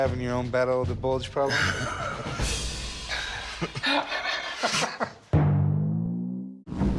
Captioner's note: everyone laughs awkwardly